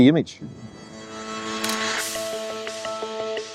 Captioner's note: camera shutter clicks